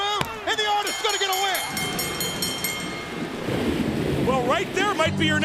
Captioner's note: bell ringing